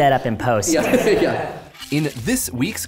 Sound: laughter

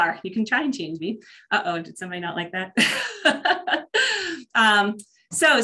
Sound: laughs

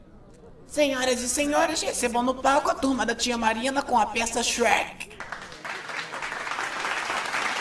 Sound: claps

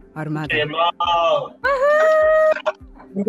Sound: cheering

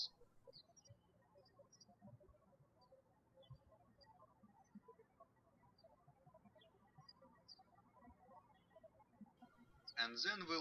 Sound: birds chirping

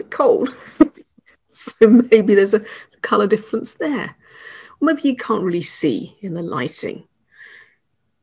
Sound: chuckles

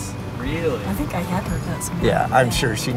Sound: laughs

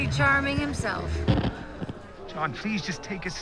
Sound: microphone feedback, static crackling

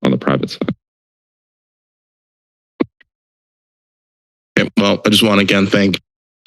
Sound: silence

